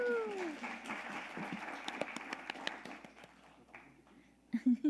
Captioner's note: audience applauding